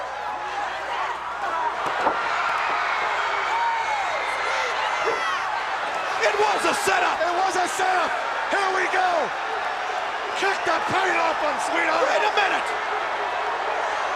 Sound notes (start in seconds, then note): 1.9 Ric thudding on ring; 1.9 crowd cheering